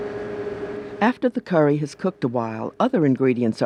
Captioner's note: voiceover